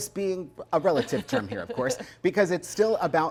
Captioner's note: chuckling